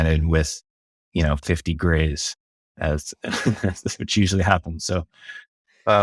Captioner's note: laughs